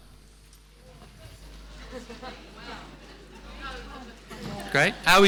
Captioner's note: audience chattering